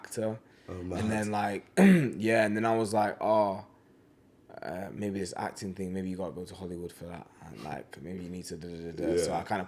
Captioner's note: clears throat